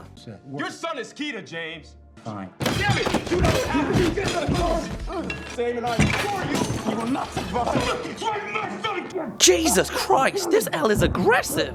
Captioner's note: smacks table